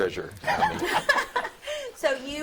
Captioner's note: all chuckling